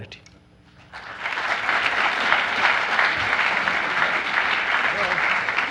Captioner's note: audience applauds